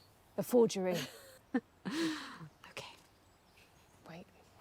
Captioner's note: chuckles